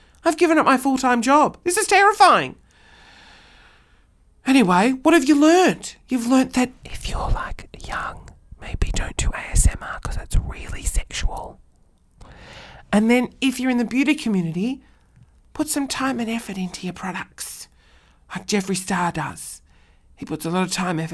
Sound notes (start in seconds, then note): 7.0 whispering; 13.0 talking normally